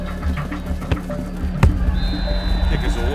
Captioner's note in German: Erwartungsvolle Musik; Trillerpfiff